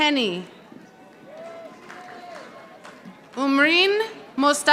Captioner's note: audience applauding